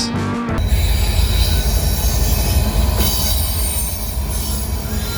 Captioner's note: train screeching